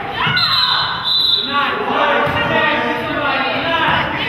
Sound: whistle blows

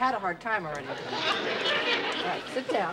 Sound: laughter

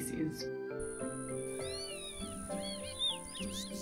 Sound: seedeater bird sounds

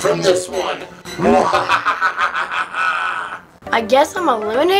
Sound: evil laughter

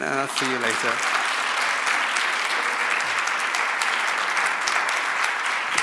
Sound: audience applauds

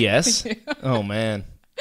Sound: laughs

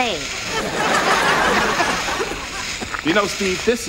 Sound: audience laughs

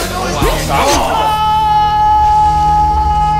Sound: stabs

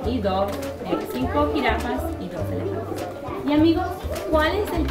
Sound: foreign language

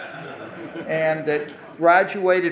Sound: audience laughing

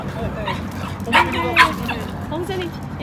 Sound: woof, woof!

